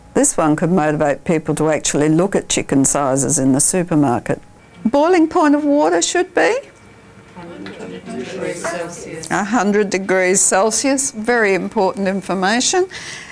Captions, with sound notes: This one could motivate people to look at chicken sizes in the supermarket. Boiling point of water should be? [audience chatter] 100 degrees Celsius – very important information.